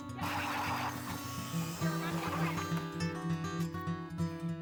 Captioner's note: laughing; auger motor humming; soothing guitar music